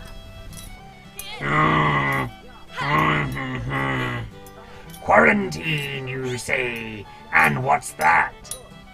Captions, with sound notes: [grumbling] Quarantine, you say? And what's that?